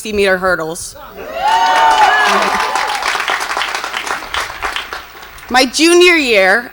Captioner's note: audience cheers and applauds